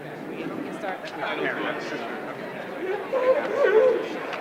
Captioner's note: indistinguishable chatter